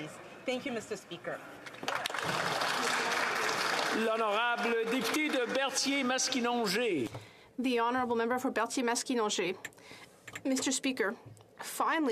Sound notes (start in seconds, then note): 6.6 some Applause